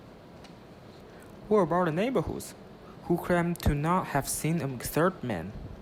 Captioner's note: voiceover